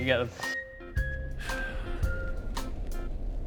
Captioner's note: small sigh of eternal anguish